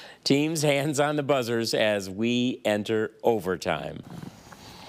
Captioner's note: none